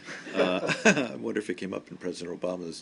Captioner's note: laughter